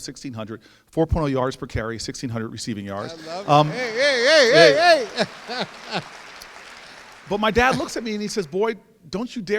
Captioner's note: audience laughs